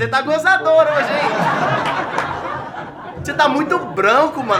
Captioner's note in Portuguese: risadas